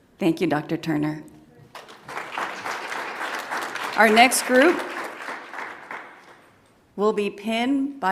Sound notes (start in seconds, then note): 1.7 audience applauds